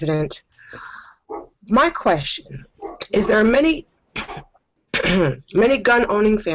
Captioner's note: coughs